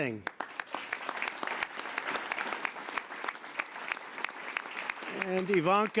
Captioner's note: applause